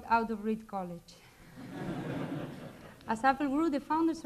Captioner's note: laughter